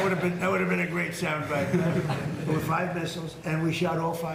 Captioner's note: laughter